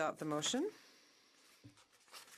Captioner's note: speaking in French